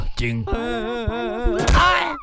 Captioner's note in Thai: เสียงร้องของทุกข์